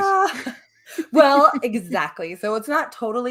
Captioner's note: laughing